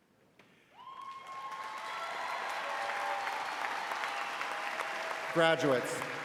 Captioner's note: audience applauding